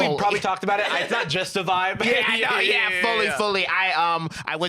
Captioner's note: laughs